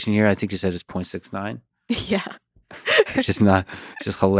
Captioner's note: laughs